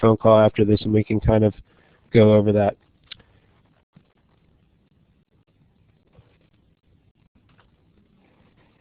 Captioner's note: pause